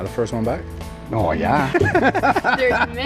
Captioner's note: laughter